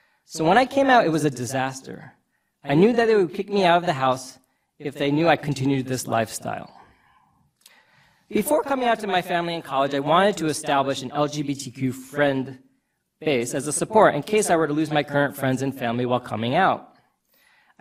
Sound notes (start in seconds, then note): none